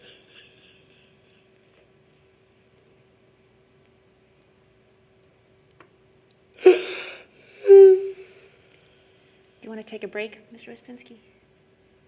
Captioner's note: crying